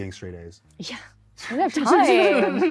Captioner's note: laughs